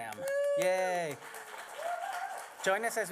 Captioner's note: applause